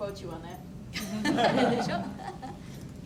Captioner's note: audience laughs